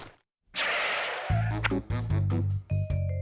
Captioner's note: shoes screech